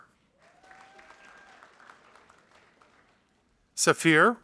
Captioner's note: audience applauding